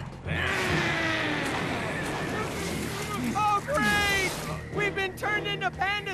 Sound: growling

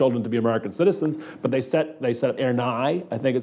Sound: speaking in a foreign language

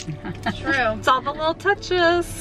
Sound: laughing

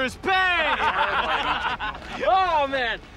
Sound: all laughing

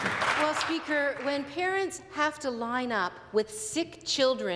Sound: some Applause

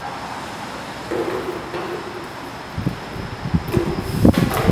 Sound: footsteps; broom sweeping

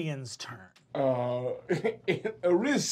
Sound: laughs

